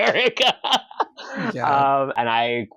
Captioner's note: laughs bitterly